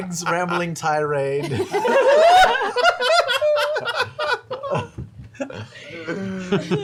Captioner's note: laughter